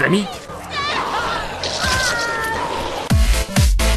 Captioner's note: screams